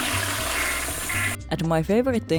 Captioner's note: toilet flushing